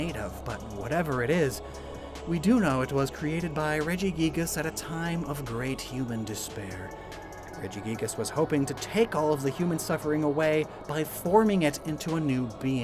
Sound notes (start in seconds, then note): none